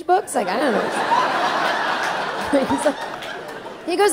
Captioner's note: audience laughing